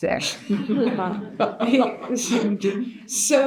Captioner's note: audience laughing